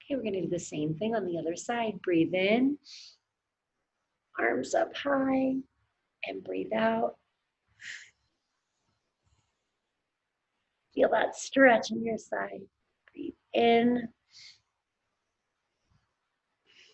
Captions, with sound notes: Okay, we're gonna do the same thing on the other side. Breathe in. (inhales heavily) Arms up high, and breathe out. (exhales heavily) Feel that stretch in your side. Breathe in. (inhales heavily)